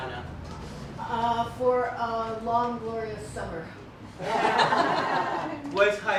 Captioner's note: laughter